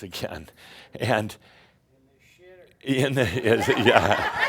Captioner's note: laughter; chuckling